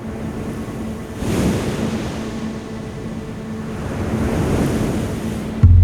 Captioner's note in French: bruit des vagues